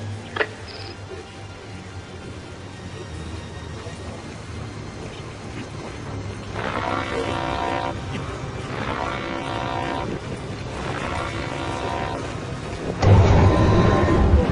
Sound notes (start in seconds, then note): 0.3 помехи